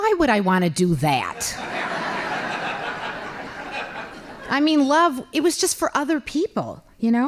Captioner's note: laughing